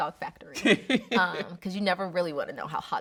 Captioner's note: laughing